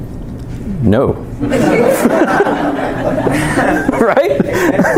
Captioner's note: laughter